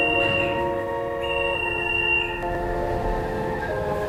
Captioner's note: beeping